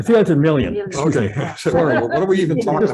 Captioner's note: laughing